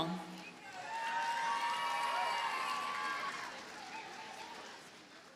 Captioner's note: audience cheers and applauds